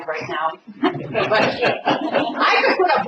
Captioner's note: laughter